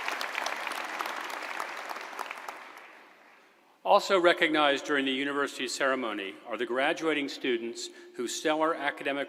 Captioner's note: applause